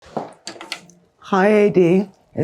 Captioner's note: door handle clicking